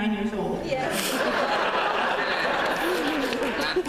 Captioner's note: laughter